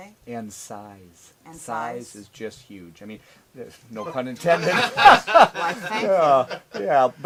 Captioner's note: laughs